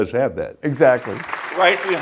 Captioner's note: audience applauds